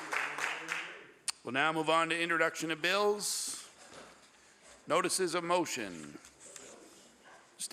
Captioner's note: applause